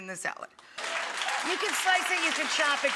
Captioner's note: audience applauds